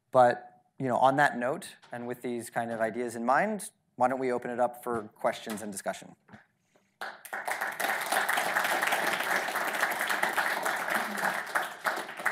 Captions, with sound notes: But on that note and with these kind of ideas in mind, why don't we open it up for questions and discussion. (audience applauding)